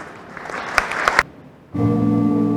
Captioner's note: applause